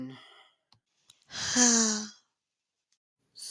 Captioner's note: le sigh